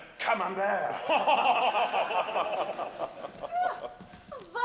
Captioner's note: laughing